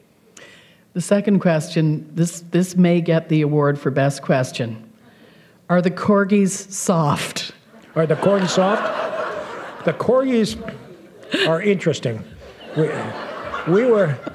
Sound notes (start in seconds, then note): 7.8 laughter